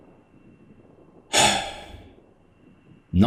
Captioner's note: sigh